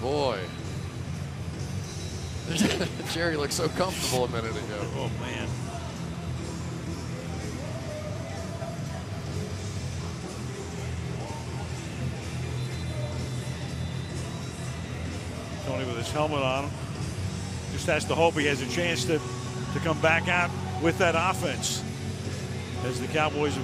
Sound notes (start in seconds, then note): 2.4 laughs